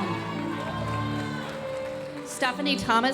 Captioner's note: audience cheering and applauding